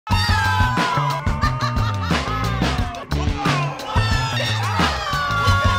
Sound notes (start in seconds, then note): 0.0 upbeat bouncy music; 0.1 shouting; 0.2 laughing; 4.4 shouting